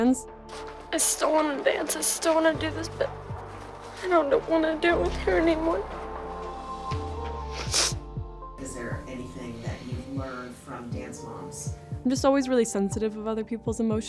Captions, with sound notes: I still wanna dance, I still wanna do this, but... I don't wanna do it with her anymore. [sniffles] I'm just always really sensitive of other people's emotions,